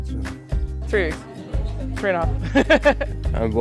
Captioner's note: laughs